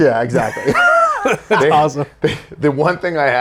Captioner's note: Zack and Jim laugh